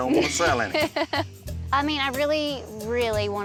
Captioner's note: laughs